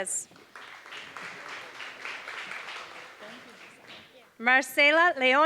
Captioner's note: applause